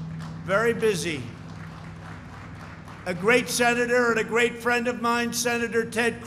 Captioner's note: applause